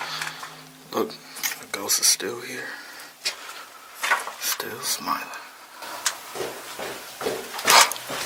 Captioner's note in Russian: шаги